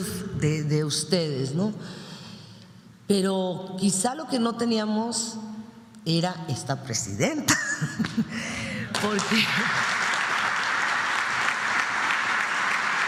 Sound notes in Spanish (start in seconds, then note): 7.5 risas; 8.8 aplausos